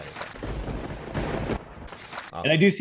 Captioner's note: lightning strike